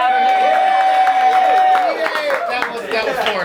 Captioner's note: cheering